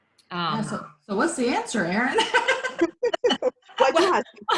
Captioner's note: laughs